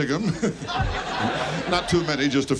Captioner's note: audience laughs